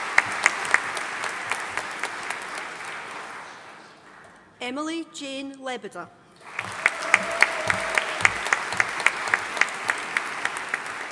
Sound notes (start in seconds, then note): 0.0 audience applauding; 6.4 audience applauding